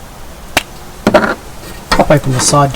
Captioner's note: lid clicks